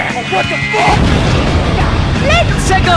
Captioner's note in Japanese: ボーン